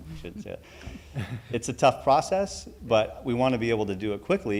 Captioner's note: laughter